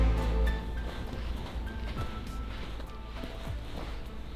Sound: crunching sand

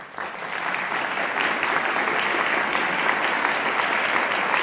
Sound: audience applauding

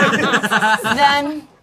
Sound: laughing

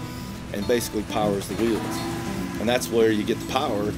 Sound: train horn blaring

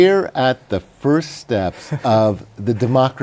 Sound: laughs

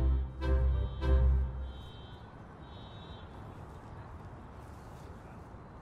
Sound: traffic rumbling

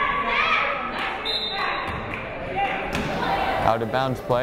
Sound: whistle blows

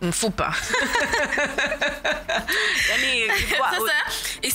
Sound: both laugh

